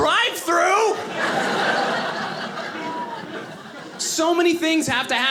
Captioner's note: audience laughing